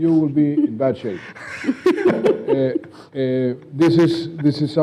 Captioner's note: laughing